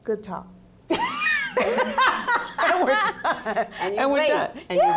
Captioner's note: laugh